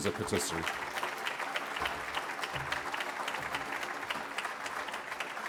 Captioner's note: applause